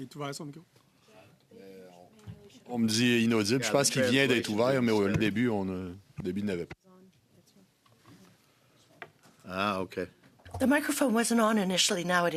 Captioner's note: speaking French